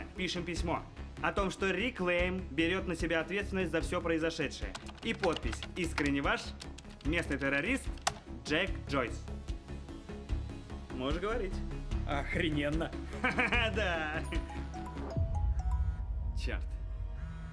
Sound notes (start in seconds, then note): 13.1 laughing; 14.2 ringtone playing